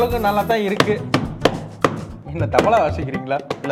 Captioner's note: hard hits the laptop